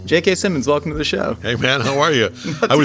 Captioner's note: chuckling